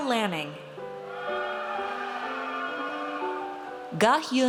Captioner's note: audience cheers